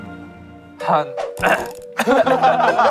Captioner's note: ahem